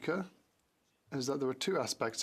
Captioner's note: speaking French